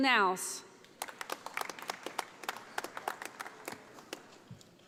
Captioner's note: audience applauding